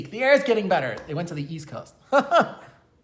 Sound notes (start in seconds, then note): 2.1 giggling